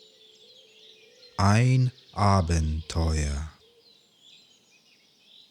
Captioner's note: german